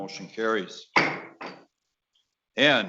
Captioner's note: gavel knocking